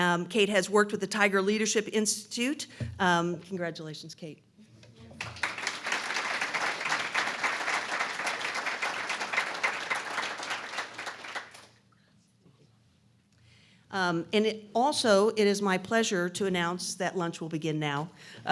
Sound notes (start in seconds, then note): 5.0 applause